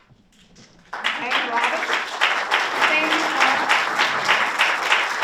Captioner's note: audience applauds